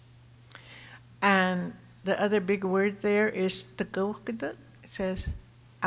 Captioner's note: speaking Tohono O'odham